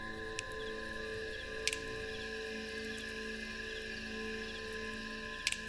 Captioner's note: crickets Chirping; fire Crackling